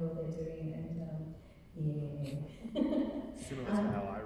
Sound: laughing

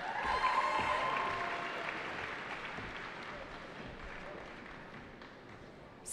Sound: cheering

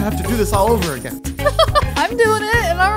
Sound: chuckling

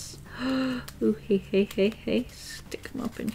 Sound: gasps, hehe

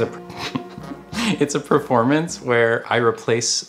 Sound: chuckles

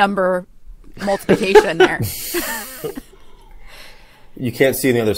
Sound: all chuckle

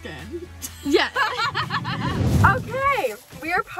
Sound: laughing

